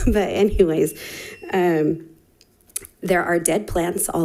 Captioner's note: chuckling; timer beeping